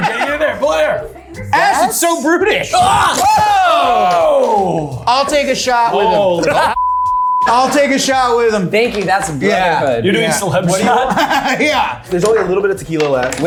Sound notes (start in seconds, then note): 2.6 yelling